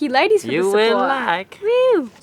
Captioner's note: imitating Borat